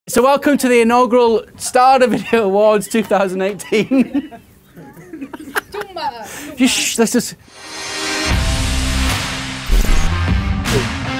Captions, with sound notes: - So welcome to the inaugural Stada Video Awards, 2018. (laughing) (shushes) Let's just.